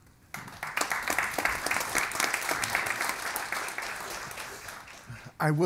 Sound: audience and panel applauds

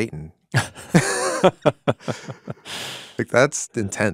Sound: both laughing

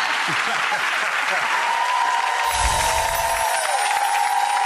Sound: audience applause

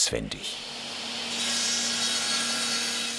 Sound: saw noise

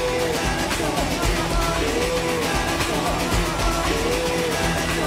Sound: crowd cheering

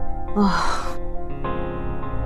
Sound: sighs

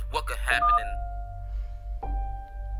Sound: phone beeps

